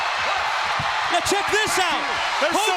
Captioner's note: crowd cheering